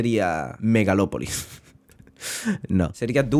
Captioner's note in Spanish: se aguanta la risa como puede